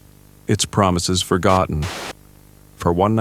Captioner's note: static